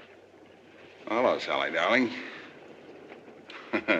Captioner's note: chuckling